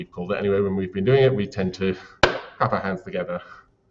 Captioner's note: claps